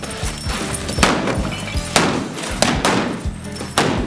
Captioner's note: gun fires; yells; guns fire